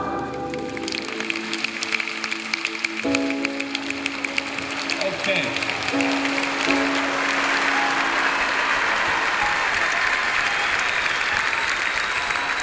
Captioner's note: clapping